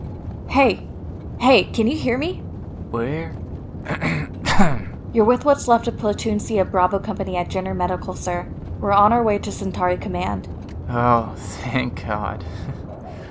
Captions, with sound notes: Hey. Hey, can you hear me? Where...? (Cough) You're with what's left of Platoon C of Bravo Company at Jenner Medical, sir. We're on our way to Centauri Command. Oh, thank god...